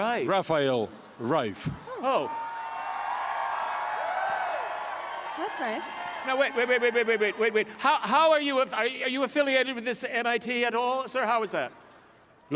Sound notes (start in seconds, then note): 1.9 cheering and applause